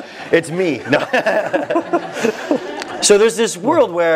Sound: laugh

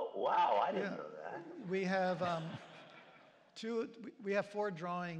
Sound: laughter

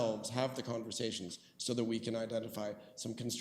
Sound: none

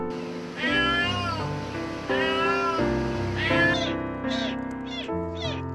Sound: mother cat's crying

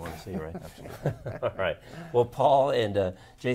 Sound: laughing

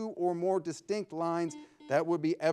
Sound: buzzer ringing

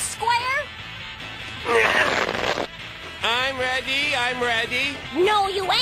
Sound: crunching

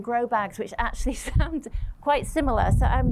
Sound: laughter

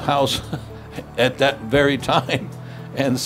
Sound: chuckles

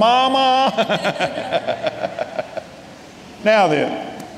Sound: laughing

